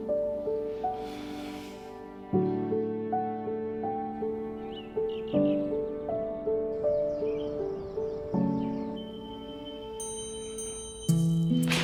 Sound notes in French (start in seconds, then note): 4.3 gazouillis d'oiseaux; 9.0 sonnerie d'alarme